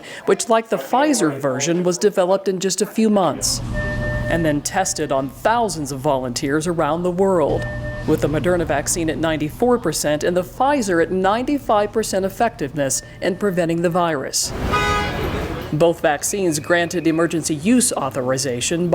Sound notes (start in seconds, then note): 14.4 car horn honks